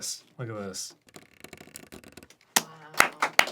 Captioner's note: sounds of reeds under stress; everyone clapping